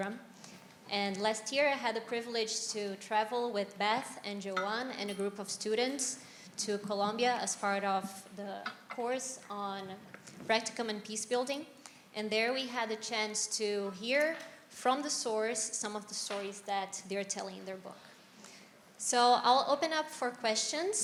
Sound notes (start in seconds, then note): none